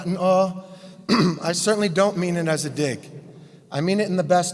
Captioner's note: cough